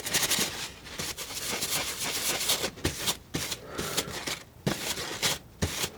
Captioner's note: scratching